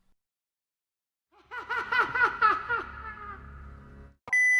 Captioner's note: reverbed Fake Joker Laughter